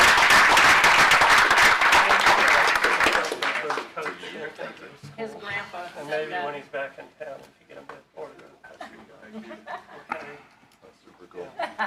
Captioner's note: applause